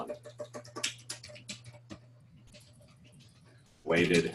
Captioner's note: typing Sounds